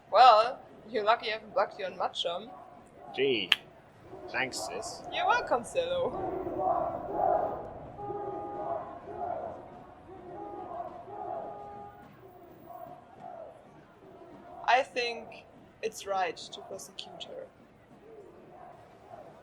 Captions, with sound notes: Well, you're lucky I haven't blocked you on maChum. Gjee. Thanks, sis. - You're welcome, Sello. - [LOUD CHANTING] We want the truth! [CHANTING SUBSIDES, CAR HONKING] - I think it's right to prosecute her. - [CROWD] We want the truth!